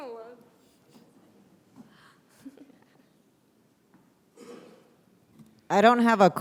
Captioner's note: brief laughter